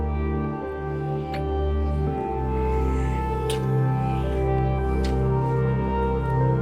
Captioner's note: gentle music; lips smacking